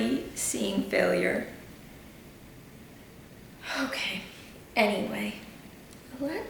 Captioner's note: deep breath